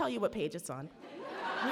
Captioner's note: audience laughs